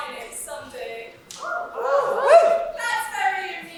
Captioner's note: audience cheers